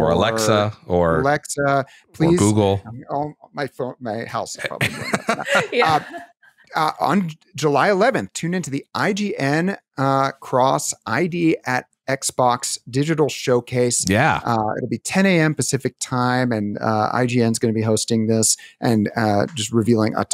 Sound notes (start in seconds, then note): 4.6 laughter